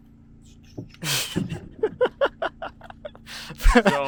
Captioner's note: laughs